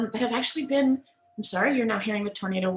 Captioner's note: siren blares